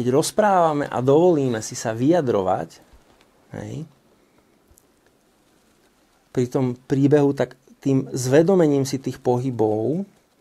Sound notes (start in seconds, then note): none